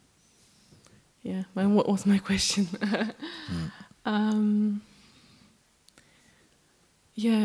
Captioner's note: chuckles